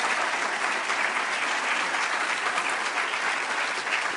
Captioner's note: applause